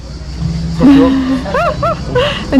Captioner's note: laughs